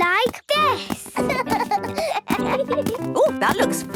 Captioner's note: both laugh